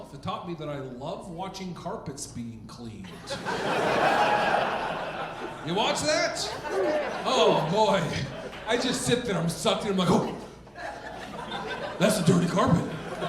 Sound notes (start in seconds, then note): 3.5 audience laughing